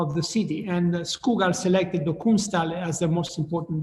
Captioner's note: speaking in foreign language